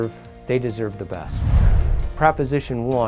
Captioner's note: digital Woosh